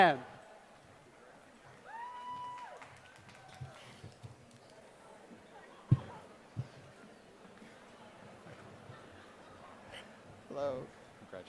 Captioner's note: applause